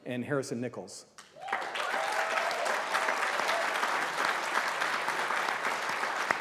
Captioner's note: applause